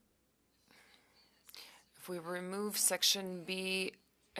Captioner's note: speaking French